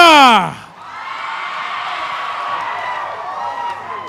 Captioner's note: cheering